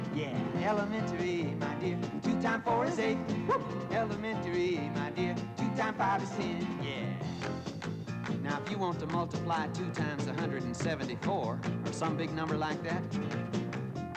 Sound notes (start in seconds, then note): 8.2 clapping